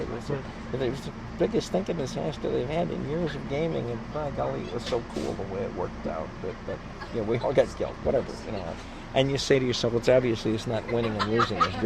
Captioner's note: laughs